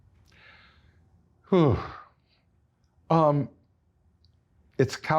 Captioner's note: breathes deeply